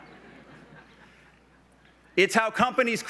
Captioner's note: laughs